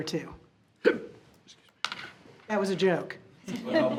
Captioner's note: hiccups